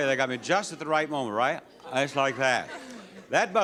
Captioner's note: audience chuckles